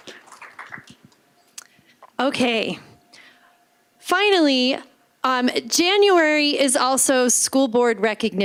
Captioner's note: applause